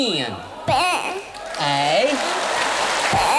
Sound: applause

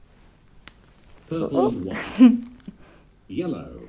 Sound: laughs

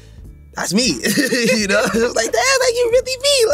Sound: both laugh

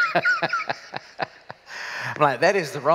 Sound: laughter

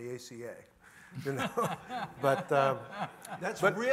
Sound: laughs

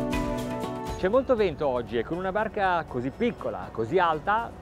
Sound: speaking in foreign language

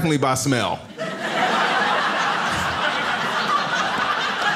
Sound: audience laughs

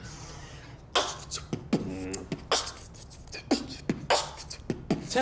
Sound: Steve starts beatboxing; in robotic voice

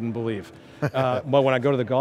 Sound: laughing

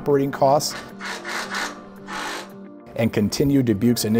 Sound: screwdriver buzzing

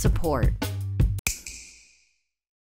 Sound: snap

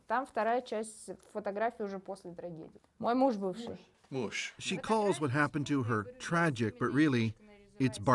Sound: speaking russian

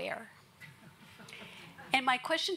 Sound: audience laughs

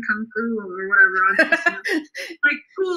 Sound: laughs

